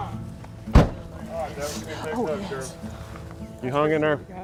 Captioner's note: sound of hugging/patting backs